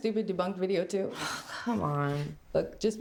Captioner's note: sighs